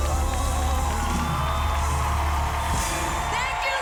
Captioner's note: audience applauding